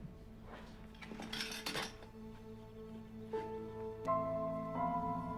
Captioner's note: materials clatter; suspenseful music